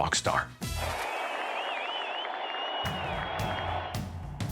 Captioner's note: crowd cheering